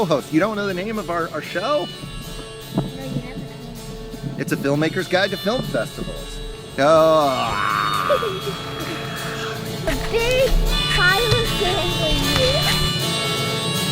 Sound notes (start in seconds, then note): 5.2 grunts